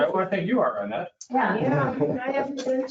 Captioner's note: laughing